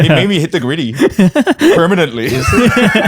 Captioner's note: laughter